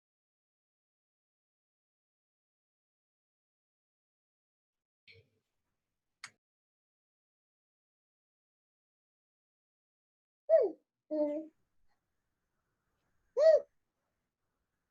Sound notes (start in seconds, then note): 11.1 child mumbling